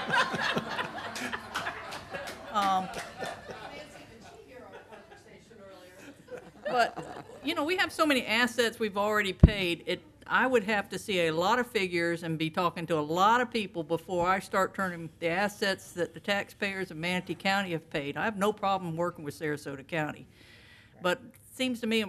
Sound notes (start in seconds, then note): 3.3 laughter